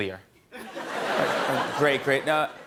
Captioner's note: laughter